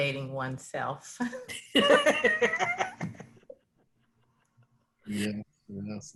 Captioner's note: laughing